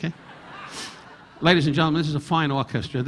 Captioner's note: audience laughing